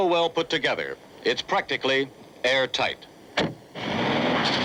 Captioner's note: car door slamming; Beetle engine rumbling